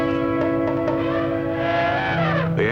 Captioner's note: elephant trumpets